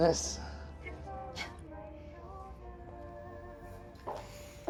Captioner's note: musical ring tone